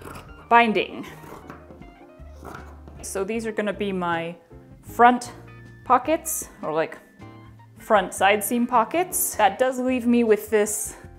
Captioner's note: slightly faster snips